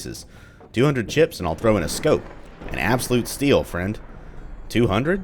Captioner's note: thunder